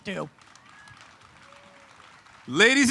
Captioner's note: audience claps